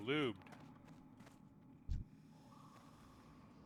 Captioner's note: footsteps